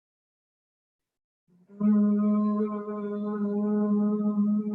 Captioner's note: humming